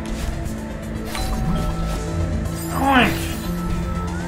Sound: doorbell

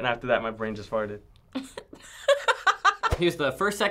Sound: laughing

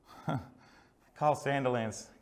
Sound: laughs

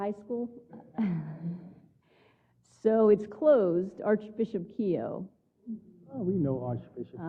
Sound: laugh

